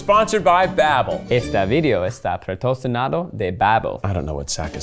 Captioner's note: speaking Spanish